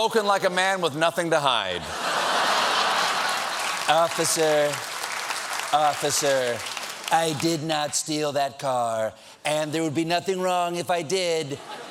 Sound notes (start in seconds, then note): 4.0 applause; 4.0 laughter